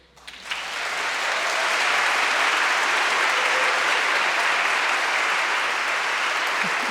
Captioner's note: crowd clapping; crowd cheering